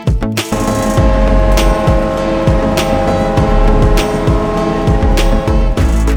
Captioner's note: cruising music; boat horn blows; cruising music